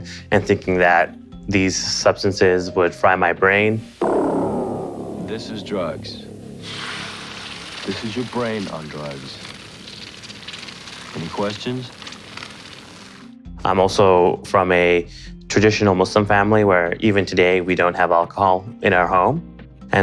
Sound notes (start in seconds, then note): 3.9 dramatic music; 7.1 egg sizzling